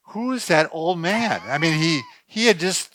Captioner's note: laughter